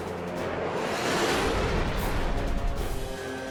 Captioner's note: jet engine noises